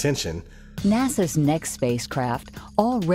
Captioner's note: voiceover